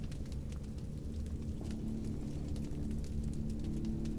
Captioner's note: rustling